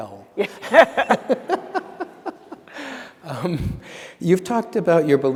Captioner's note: laughter